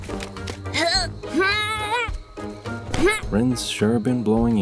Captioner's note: grunting